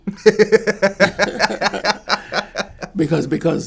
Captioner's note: laughs